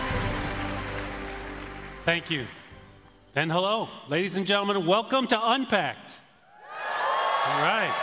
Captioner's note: applause